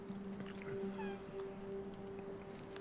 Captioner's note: chuckles